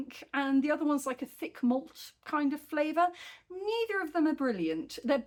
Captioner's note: none